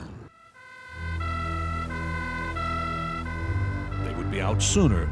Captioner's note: siren